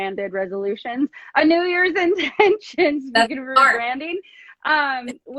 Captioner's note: laughs